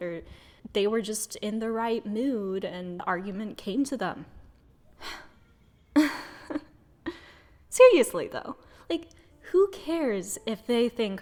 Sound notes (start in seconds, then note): 5.0 sigh